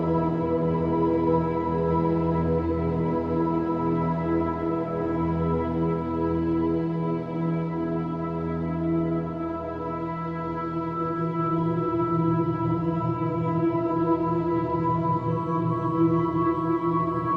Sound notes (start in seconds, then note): none